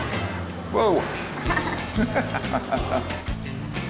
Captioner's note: laughs